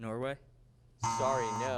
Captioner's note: buzzing sound